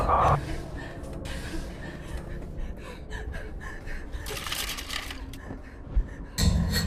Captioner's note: Heather gasping fearfully; objects clattering